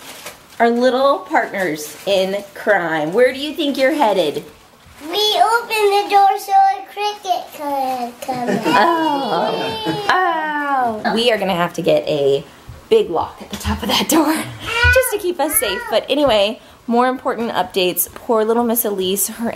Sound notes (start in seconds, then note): 8.3 laughs; 8.6 mumbles